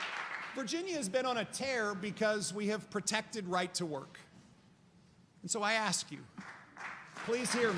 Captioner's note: applause